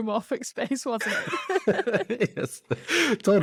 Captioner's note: both laugh